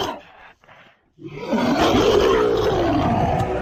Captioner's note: monster Roaring